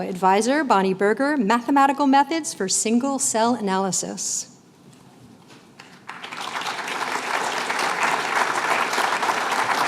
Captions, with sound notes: Advisor, Bonnie Berger. Mathematical methods for single-cell analysis. [APPLAUSE]